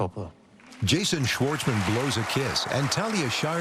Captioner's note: cheering and applause